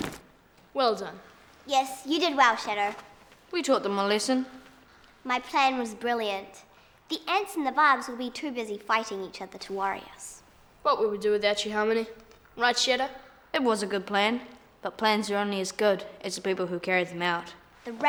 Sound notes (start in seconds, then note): none